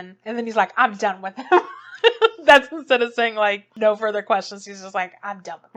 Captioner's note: laughs